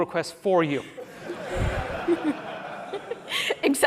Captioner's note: laughter